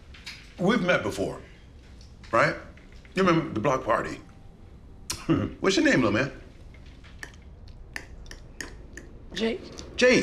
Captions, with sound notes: We've met before, right? You remember, the block party? (Q laughing) What's your name, little man? (cutlery tapping) - Jake.